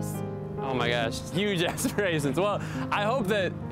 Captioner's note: laughing